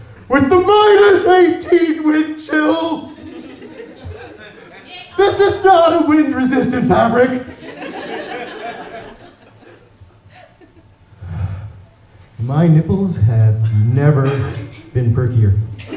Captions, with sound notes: with THE MINUS EIGHTEEN WINDCHILL [chuckles from audience] This is not a wind resistant fabric! [laughter] My nipples have never been perkier.